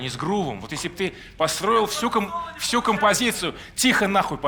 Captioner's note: a shout from the audience